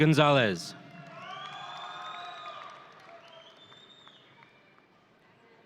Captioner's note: audience cheering